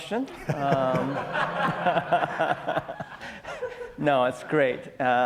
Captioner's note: audience laughs